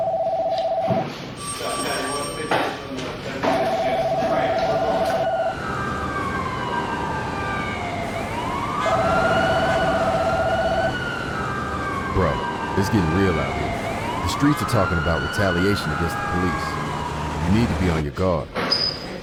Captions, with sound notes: (sirens blaring) (horns honking) Bro, it's getting real out here. The streets are talking about retaliation against the police. You need to be on your guard.